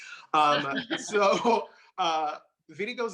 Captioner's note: laughing